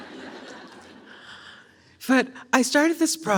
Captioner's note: audience laughs